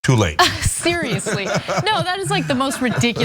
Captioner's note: laugh